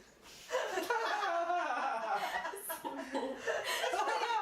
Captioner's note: laughing